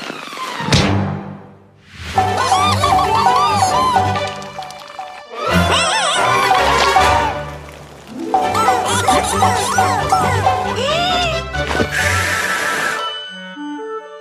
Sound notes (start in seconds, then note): 2.2 all cheering; 5.3 screaming; 8.2 all cheering; 10.7 inhales; 11.5 blows